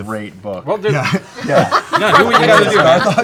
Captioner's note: laughter